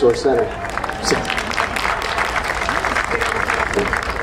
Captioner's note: audience applauding